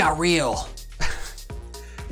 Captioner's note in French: rires